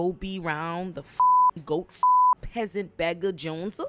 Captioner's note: beep